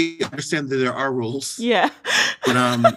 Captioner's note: laughter